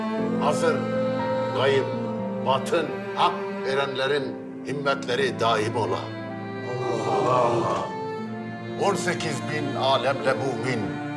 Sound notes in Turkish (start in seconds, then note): 6.4 Hep bir ağızdan